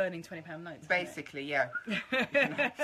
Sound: whistles; laughing

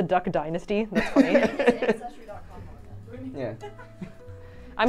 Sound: all laughing

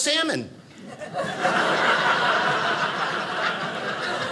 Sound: audience laughing

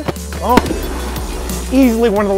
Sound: bang

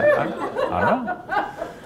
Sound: laughter

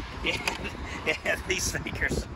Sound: laughs

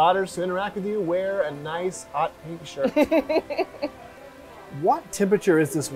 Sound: laughs

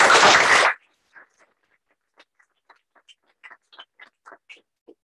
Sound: applause

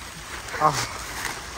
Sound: the sound of letting out a relieving piss

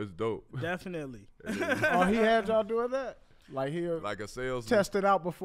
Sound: laughs

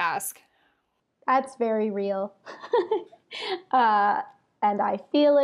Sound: laughs

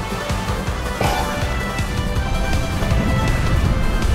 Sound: jump sound

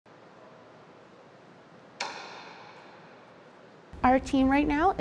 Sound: sounds of satellite construction clean room

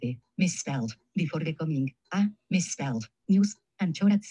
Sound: speaking in foreign language

